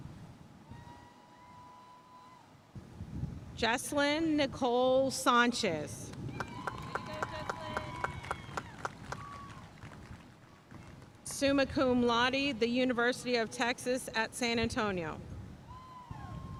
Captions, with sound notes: Jesslyn Nicole Sanchez. (audience cheering and applauding) Summa Cum Laude, the University of Texas at San Antonio.